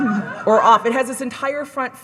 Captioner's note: audience members cackling